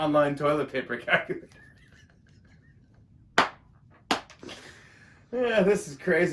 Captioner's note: laughs